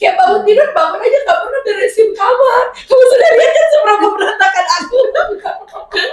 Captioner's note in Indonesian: tertawa